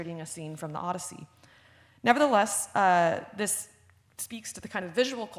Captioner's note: none